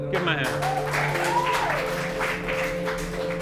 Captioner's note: clapping and cheering